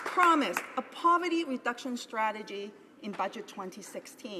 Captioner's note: applause